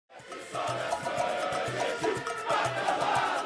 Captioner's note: chanting